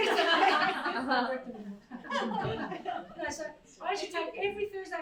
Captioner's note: crowd laughs